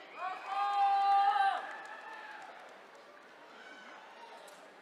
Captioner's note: attendees cheering